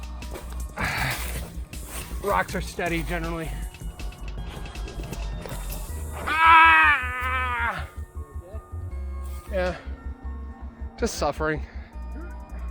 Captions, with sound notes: Rocks are steady generally. (screams) You okay? Yeah, just suffering.